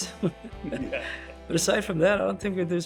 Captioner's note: group chuckles